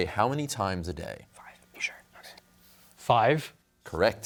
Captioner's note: whispers